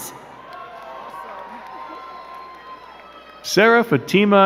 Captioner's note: crowd cheering and clapping